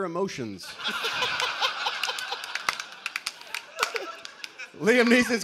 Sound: laughter

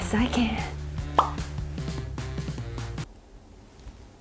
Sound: image pops; music stops

